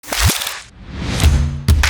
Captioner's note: crackling; whooshing; upbeat music